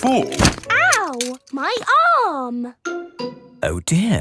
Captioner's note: thumps